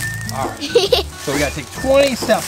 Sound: assistant giggles

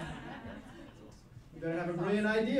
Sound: laughing

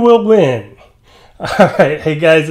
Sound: laughs

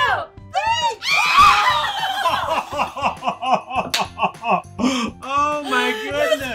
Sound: shrieking; laughing

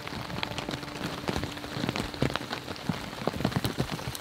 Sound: rain pouring

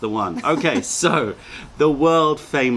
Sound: laughter

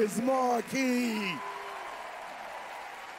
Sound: applause

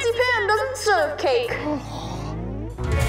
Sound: gasping

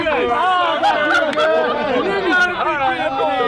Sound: laughing

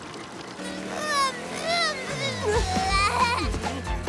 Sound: laughing

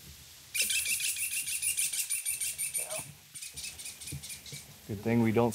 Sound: bird squawking loudly

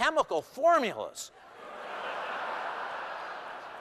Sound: laughter

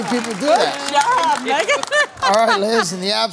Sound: cheers, applause

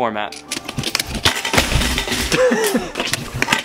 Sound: metal clanking

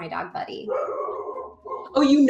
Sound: barking

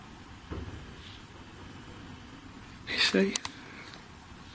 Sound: soft thumping

